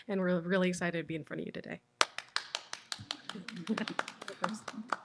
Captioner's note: applause